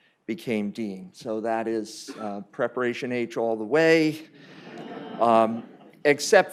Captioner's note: laughter